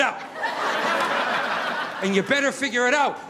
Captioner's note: audience laughing